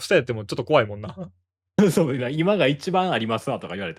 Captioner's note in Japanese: 笑い